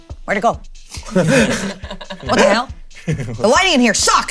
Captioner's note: players chuckling